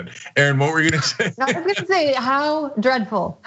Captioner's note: laugh